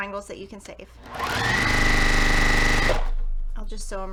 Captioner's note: sewing machine rattling